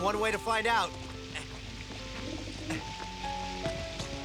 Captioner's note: grunting